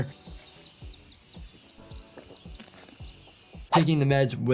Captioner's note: birds chirping